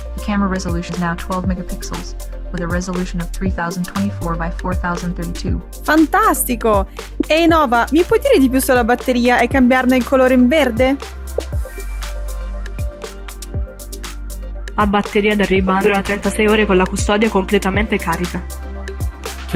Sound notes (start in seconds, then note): 6.2 speaking Italian; 11.7 upbeat music; 15.1 speaking Italian